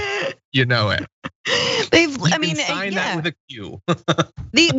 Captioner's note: laugh